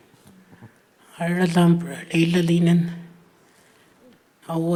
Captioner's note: speaking Anmatyerr